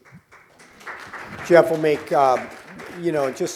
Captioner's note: applause